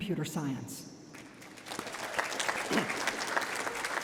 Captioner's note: applause